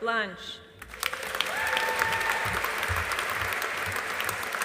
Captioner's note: audience applauding